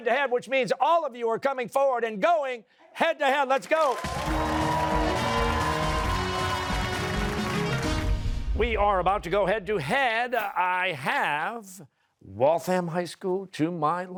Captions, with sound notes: which means all of you are coming forward and going head to head, let's go. (cheers and applause) We are about to go head-to-head. I have Waltham High School to my left,